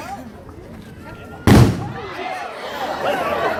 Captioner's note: boom